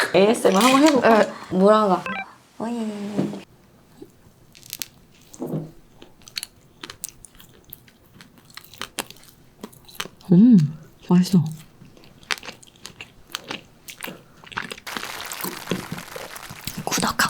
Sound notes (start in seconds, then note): 5.9 sound of figs chewing